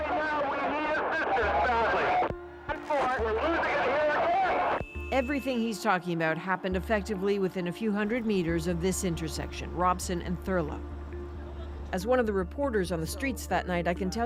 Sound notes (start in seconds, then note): 2.7 horn